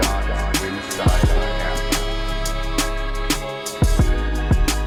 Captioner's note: reporters continue consecutively chattering; gentle rhythmic music